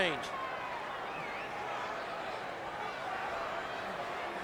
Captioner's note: crowd shouting